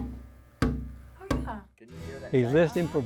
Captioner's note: tapping